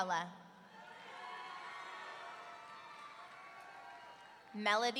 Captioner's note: audience cheering